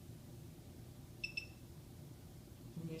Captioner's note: device beeps